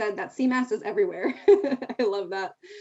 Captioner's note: laughing